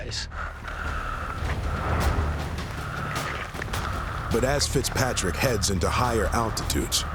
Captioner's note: panting heavily